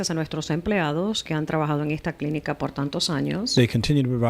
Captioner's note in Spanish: Hablando ingl\s